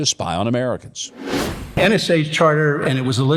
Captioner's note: wind whooshing